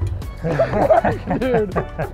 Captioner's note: both laughing